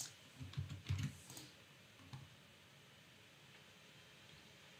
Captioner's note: keyboard clicking